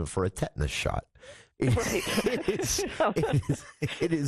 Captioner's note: laughter